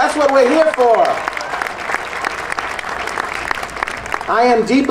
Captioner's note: audience applauding